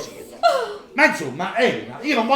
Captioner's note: Elena cries